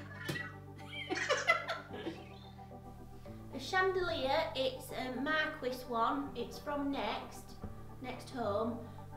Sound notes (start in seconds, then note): 0.8 giggles